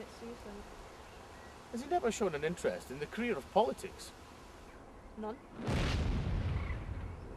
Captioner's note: bang